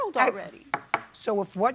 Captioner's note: raps desk